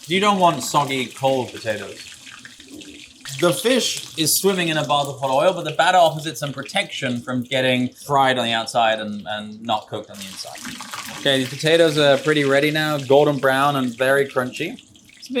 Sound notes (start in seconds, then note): 2.0 oil sizzles; 10.6 oil sizzles